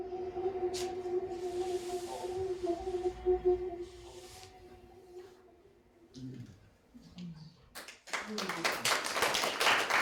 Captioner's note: audience applauding